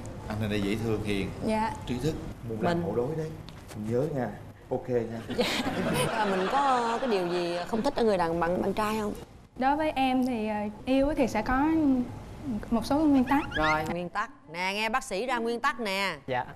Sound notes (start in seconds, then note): 5.4 laughing